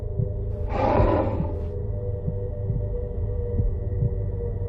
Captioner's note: glass scraping